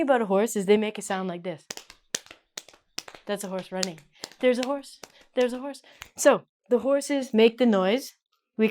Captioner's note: claps